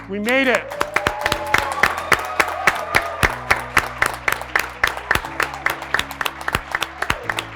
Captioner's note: graduates clapping; graduates cheering